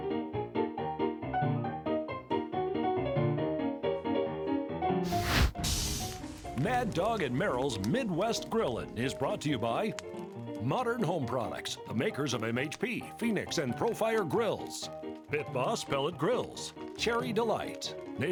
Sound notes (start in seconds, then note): 5.0 fire whooshes; 5.0 sizzling; 6.7 voiceover